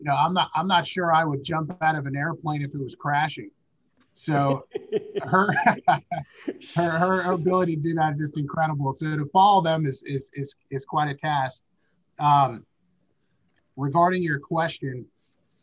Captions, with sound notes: you know, I'm not sure I would jump out of an airplane if it was crashing. So her- (laughing) her ability to do that is just incredible so to follow them is quite a task. Regarding your question,